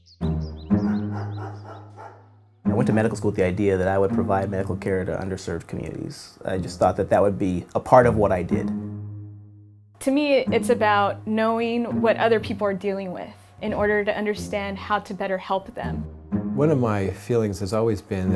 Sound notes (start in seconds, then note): 0.8 dog barking